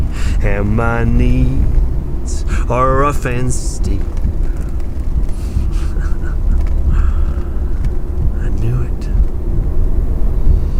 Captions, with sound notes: and my needs are rough and steep. (chuckling) I knew it.